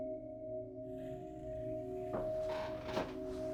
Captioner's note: footsteps